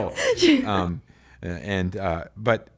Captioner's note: laughs